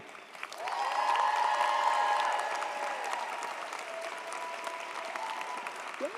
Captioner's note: audience applauds; audience cheers